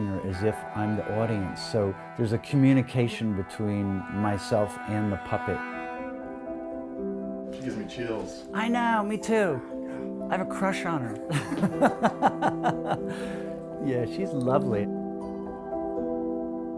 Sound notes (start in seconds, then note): 11.2 laughter